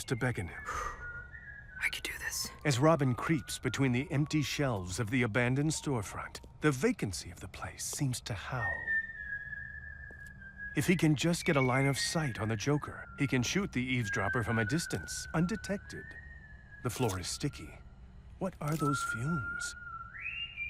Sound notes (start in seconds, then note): 0.6 exhales deeply; 8.5 whistling